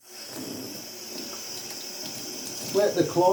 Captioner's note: water running